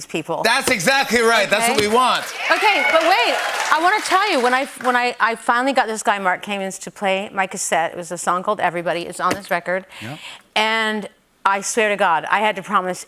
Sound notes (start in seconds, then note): 3.2 cheers